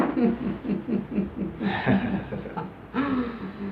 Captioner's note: laughs